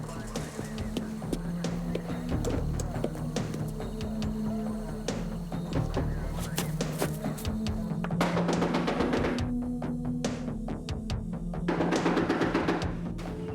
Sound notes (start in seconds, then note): 0.3 tense music; 7.9 knocking